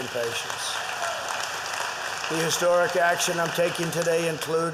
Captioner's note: applause